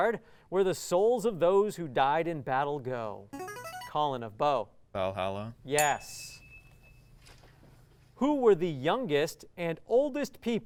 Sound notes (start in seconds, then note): 3.1 ringing; 5.8 ding